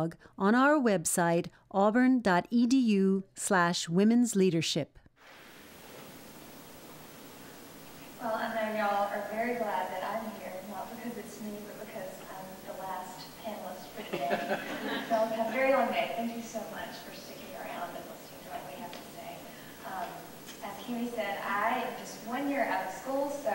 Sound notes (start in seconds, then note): 14.0 crowd laughing